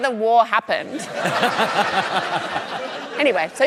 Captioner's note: laughter